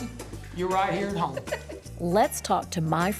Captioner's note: laughing